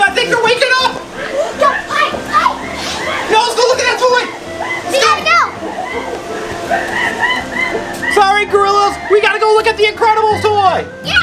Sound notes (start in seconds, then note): 6.8 apes screeching in distress